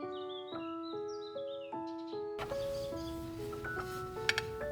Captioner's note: birds chirp